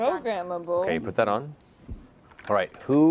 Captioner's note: none